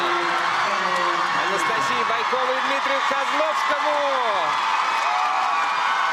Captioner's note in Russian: ликование